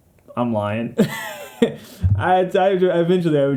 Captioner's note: wheeze